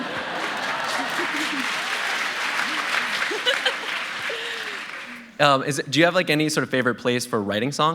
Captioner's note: laughter; applause